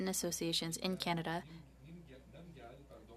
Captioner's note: speaking French